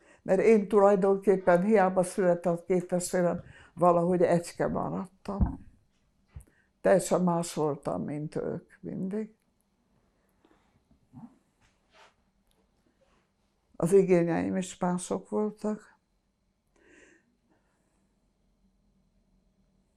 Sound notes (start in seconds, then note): 17.1 pauses 6 seconds